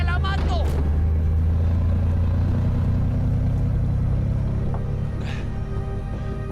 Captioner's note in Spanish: Ruido del vehículo